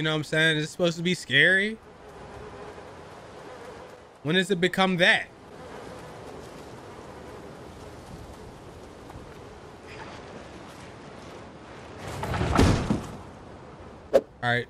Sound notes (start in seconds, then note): 5.2 flies buzzing; 12.0 thuds